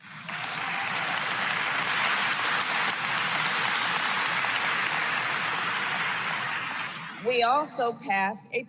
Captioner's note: applause